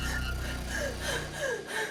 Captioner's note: heavy breathing